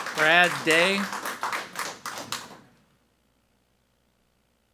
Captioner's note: people clapping